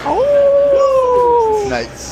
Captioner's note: howling